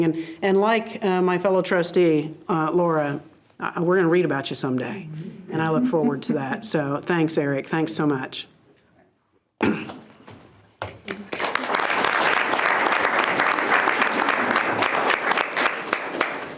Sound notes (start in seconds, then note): 10.9 board members applaud